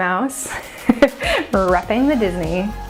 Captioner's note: laughs